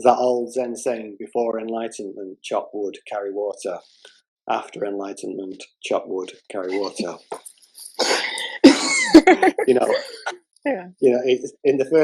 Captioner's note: laughter